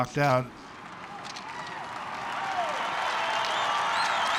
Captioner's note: loud cheering, whistling and applause